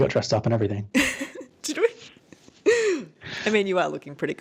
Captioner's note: laughing